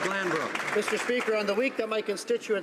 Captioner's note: applause